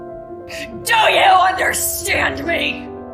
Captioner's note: shouting